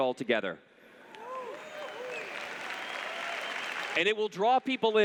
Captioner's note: applause